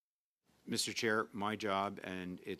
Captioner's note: speaking French